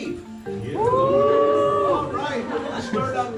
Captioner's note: crowd cheering